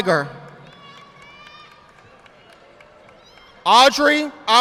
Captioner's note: audience applauding